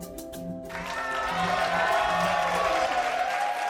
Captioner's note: cheers and applause